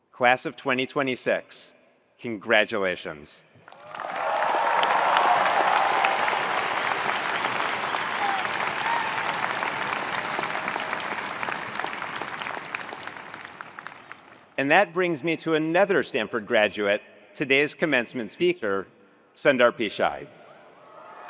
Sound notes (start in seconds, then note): 3.7 attendees applauding; 3.7 attendees cheering